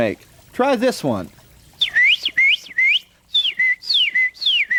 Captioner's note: bird call